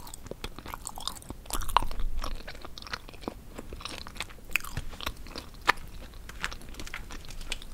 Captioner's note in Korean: 냠냠